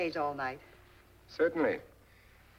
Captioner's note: none